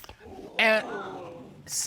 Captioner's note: audience gasps